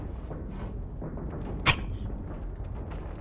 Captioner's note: dart sound